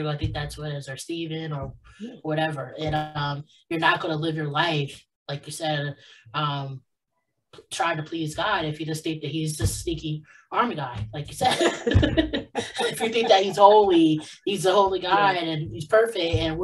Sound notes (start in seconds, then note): 11.4 both laughs